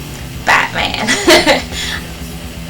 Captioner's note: giggle